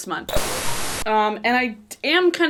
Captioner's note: static hissing